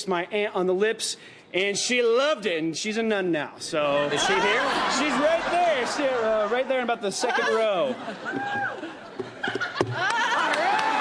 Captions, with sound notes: kissed my aunt on the lips, and she loved it. And she's a nun now, so... Is she here? She's right there. Right there in about the second row. [ Laughs ]